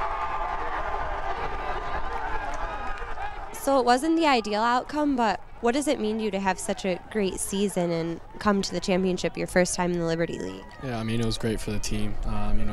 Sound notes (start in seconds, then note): 7.5 cheering